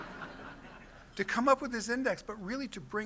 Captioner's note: laughter